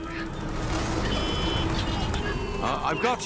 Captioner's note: Cornish Pixies laughing